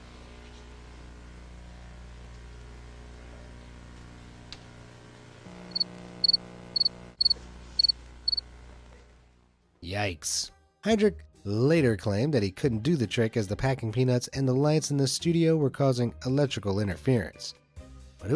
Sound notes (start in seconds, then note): 6.2 crickets chirping